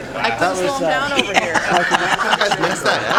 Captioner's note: laughter